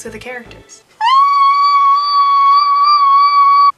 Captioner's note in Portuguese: gritos internos